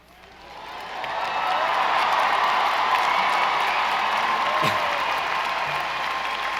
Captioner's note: audience applauding; audience cheering